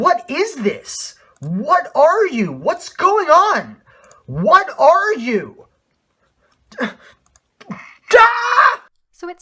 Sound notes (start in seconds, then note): 1.4 increasingly panicked; 8.0 screams